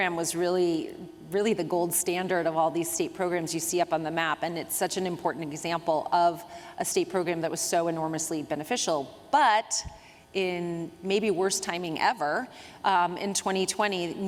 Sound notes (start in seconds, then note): none